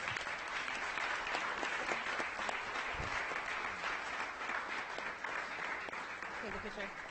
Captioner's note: audience applauding